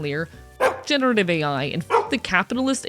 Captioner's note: bark